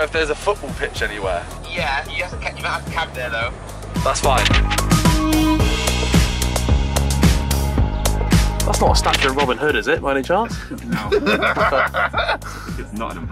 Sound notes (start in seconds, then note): 1.8 man mumbling through the phone; 4.2 upbeat music